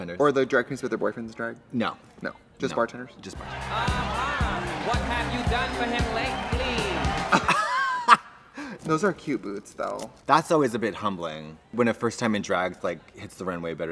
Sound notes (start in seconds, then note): 6.8 laughs